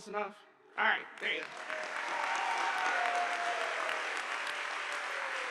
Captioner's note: audience applauding